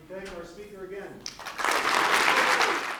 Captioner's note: applause